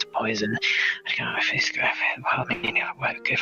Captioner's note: whispered mutters